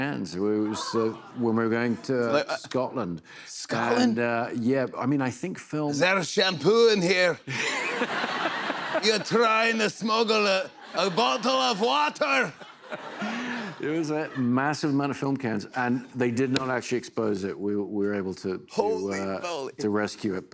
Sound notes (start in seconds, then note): 5.9 Scottish accent; 7.5 laughter